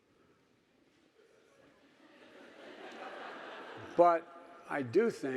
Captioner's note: audience laughing